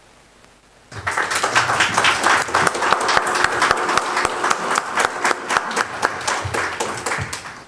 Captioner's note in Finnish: Aplodeja